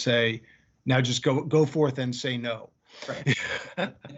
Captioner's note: laughing